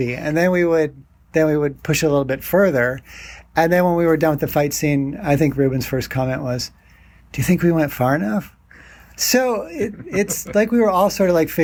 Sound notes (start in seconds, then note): 9.8 laughing